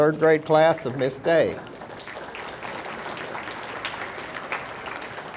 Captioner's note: audience applauding